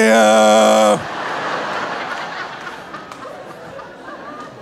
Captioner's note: audience laughing